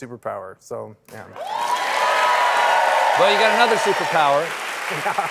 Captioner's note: cheers and applause